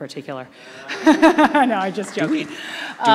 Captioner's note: laughing